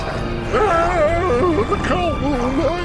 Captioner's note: zombies screaming